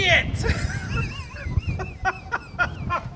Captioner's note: laughing